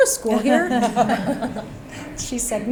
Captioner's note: panel laugh